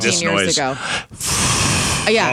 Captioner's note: air whooshing